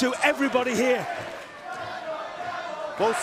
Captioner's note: fans chanting